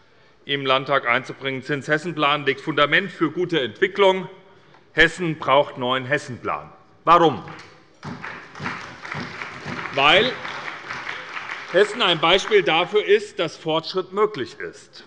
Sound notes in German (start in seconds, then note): 8.0 Beifall bei der SPD